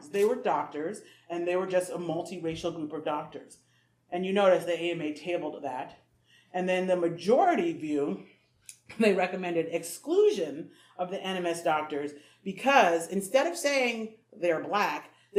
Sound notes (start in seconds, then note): none